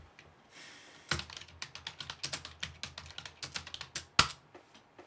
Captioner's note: keyboard clicking